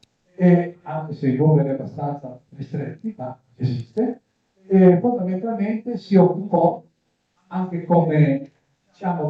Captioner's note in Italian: schiarire la voce